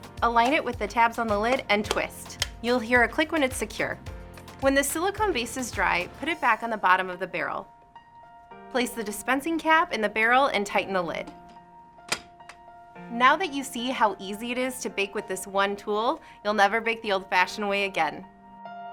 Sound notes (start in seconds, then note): 12.1 lid clicks